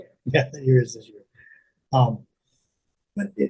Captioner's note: laughing